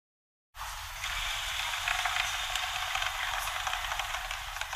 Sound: machine sound

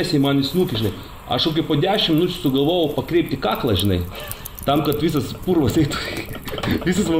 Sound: giggles

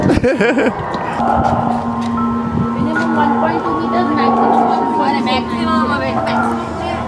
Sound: laughs

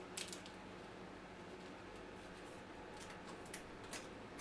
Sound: artwork crackling

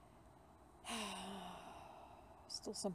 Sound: sigh

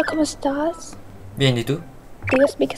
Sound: Spanish

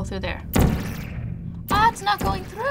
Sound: gun zaps

